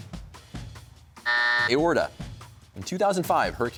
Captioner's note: buzzer sounds